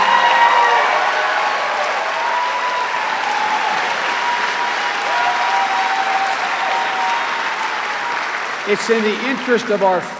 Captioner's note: cheering and applause